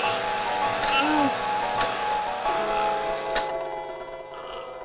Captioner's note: levers clunking